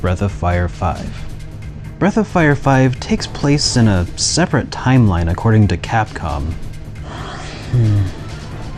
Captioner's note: suspiro exasperado